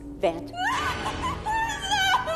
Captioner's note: screaming